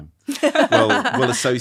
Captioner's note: all laughing